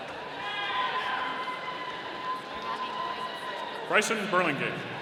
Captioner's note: audience cheering